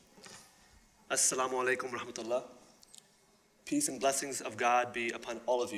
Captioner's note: speaking arabic